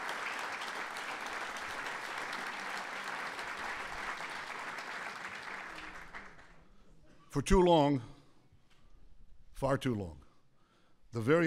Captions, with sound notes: (applause) For too long -- far too long -- the very